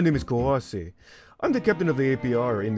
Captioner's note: inhales